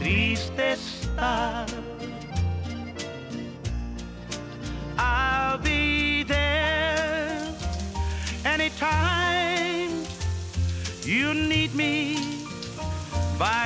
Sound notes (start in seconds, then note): 0.2 vocalist sings in foreign language; 6.9 water splashes